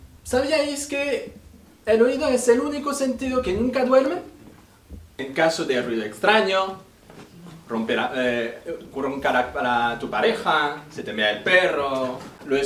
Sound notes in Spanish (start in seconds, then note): none